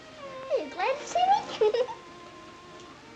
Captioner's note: giggling